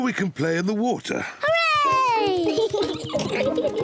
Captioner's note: both giggling